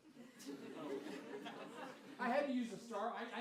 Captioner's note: laughter